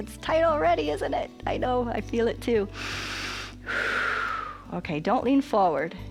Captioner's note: inhales and exhales